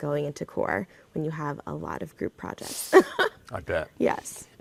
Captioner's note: laughs